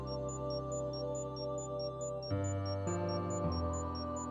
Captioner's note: faint beeping